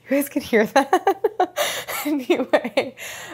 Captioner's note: laughs